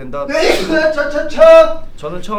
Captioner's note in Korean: 우렁찬 기침 소리